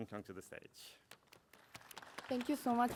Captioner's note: applause